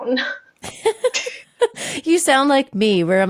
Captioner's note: both laughing